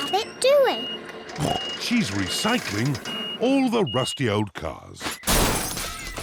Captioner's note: snorts